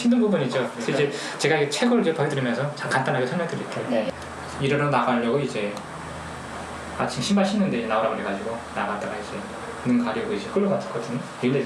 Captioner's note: speaking in foreign language